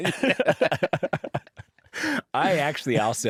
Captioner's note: laughter